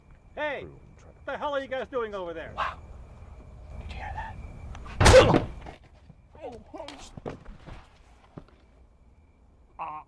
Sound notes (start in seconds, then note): 6.1 grunting; 9.8 grunting